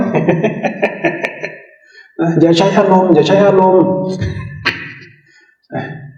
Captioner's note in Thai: เสียงหัวเราะ